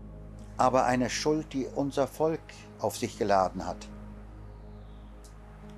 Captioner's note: continues speaking in German